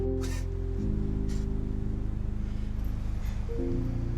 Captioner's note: chuckles